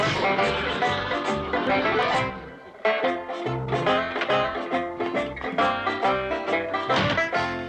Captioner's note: scoffs